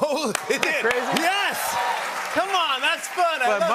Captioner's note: cheers and applause